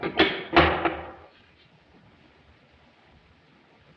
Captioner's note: door latches